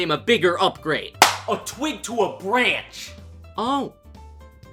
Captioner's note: claps